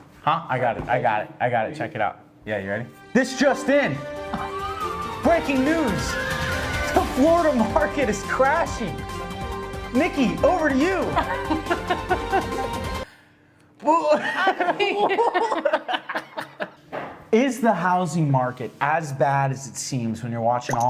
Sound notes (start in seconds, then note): 6.0 laughs; 13.6 both laughing